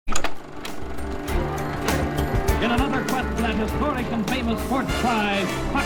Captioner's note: movie projector hums